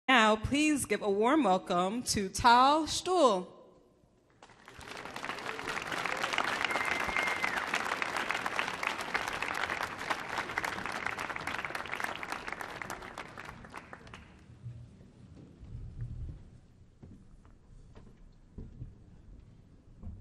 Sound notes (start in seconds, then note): 4.3 applause